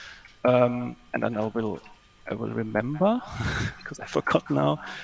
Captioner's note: chuckles